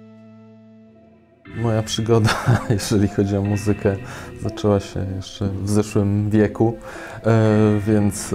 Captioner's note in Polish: śmiech